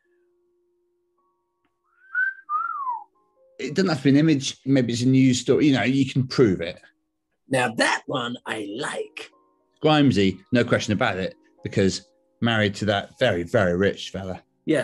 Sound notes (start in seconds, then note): 2.0 wolf whistles